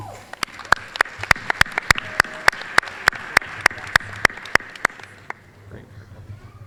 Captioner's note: applause